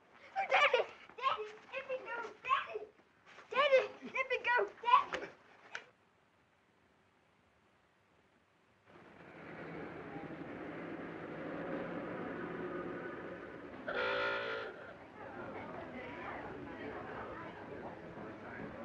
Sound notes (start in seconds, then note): 8.8 city street sounds; 13.8 car honks